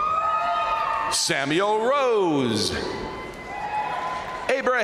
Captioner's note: crowd cheering; crowd applauding; crowd cheering